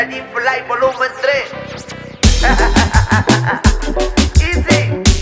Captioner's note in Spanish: risas